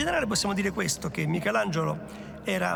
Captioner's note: in Italian